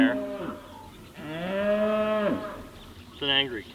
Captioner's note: cow mooing